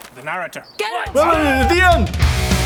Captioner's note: roars of a thounsand voices